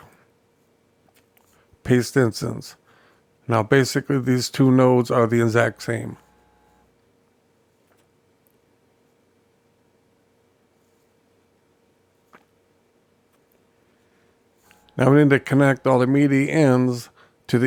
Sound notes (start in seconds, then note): 6.4 silence